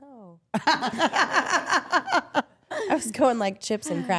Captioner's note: all laughing